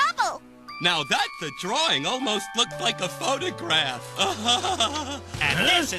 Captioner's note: laughs